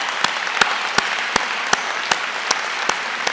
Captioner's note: applause